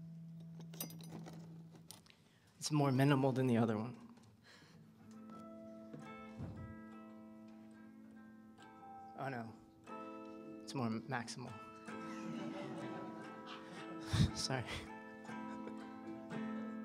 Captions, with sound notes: It's more minimal than the other one. Oh, no. It's more maximal. [LAUGHTER] [CHUCKLES] Sorry.